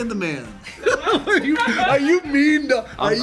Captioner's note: laughter